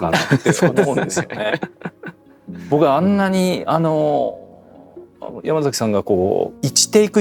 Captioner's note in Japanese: 笑い